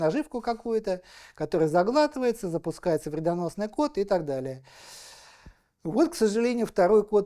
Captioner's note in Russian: вздыхает